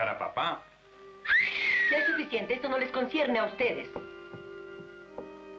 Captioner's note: whistles